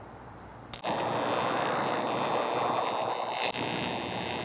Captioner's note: electricity crackles